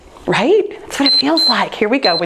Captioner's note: timer beeps